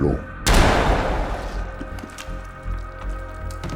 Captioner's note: gunshots fired